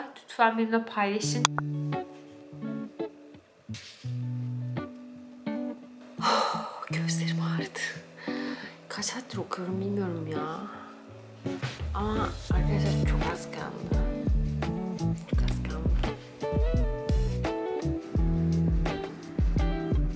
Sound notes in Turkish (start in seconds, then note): 6.1 iç çeker